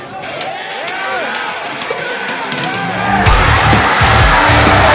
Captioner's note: crowd cheering